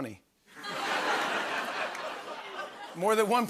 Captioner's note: laughter